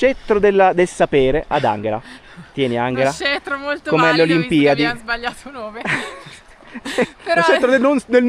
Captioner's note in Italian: risate